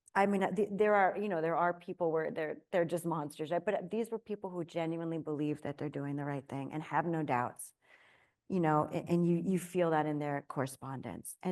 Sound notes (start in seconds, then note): none